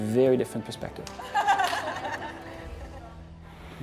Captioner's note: laughter